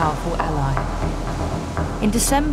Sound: waves crash

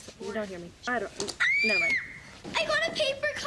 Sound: high pitch scream

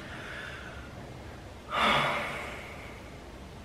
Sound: sigh

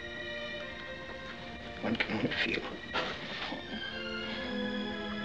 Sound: sighs

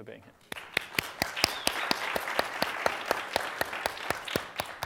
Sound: applause

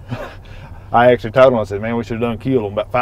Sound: chuckles

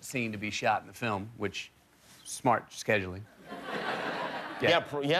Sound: laughter

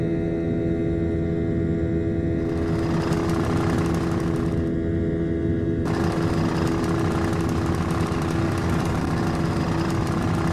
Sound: stall warning

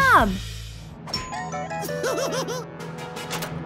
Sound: giggling

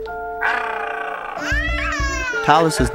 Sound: screaming

